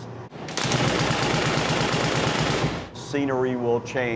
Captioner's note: gun firing